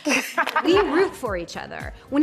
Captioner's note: laughter